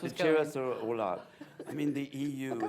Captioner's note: laughter